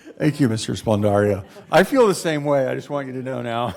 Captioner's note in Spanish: risas